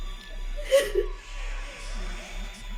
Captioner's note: crying